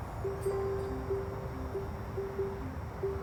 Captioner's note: bell jingles